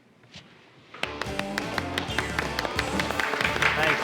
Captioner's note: applause